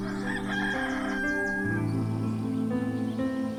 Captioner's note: rooster crowing